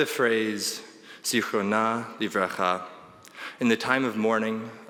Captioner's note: speaking in foreign language